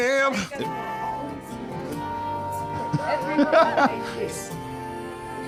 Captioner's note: laughs